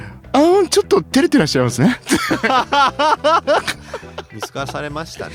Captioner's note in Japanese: 笑い